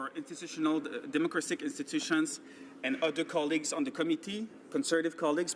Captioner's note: speaking French